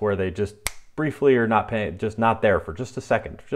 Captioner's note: snaps fingers